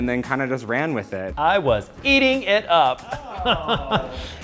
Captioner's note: laughs